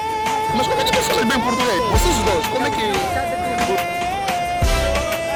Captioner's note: speaking Portuguese